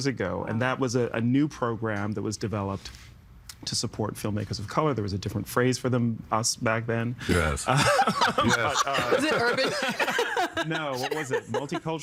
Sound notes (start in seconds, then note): 7.6 laughing